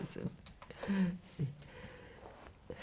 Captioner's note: laughing